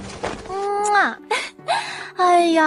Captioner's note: kiss